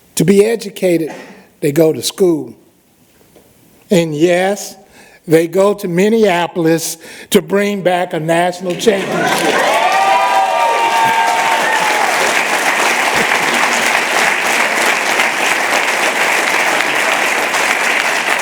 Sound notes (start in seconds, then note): 8.8 applause